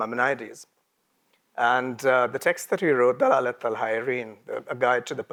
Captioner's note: speaks in a foreign language